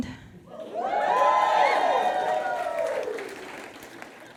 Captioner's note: audience cheers